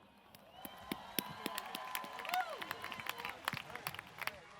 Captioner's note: audience cheers